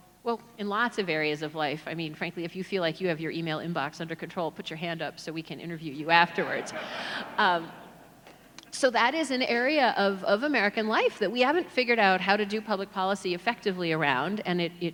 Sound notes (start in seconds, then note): 6.4 audience laughs